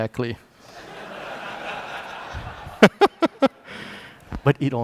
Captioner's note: laughter